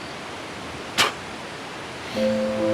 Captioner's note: Tex spits; tender synth music